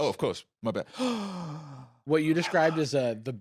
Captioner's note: gasps